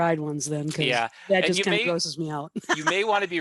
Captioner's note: laughs